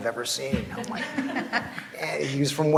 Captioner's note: laughs